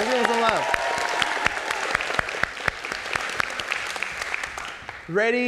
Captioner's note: audience clapping